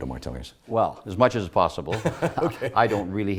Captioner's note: laughs